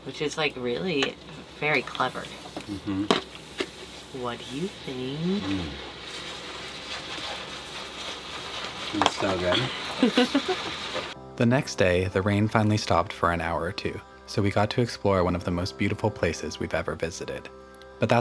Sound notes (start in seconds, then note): 9.5 laughing